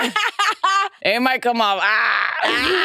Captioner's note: participants laughing